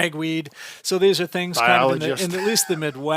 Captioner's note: laughs